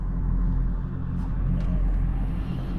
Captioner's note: none